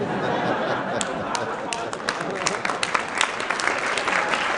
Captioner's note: laughing and applause